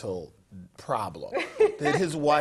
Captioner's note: laugh